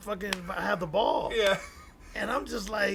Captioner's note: laugh